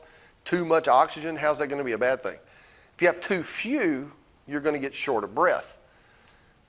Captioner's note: breath